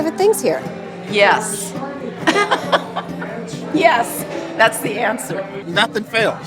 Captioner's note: laughing